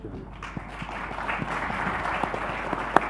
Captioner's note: audience applauds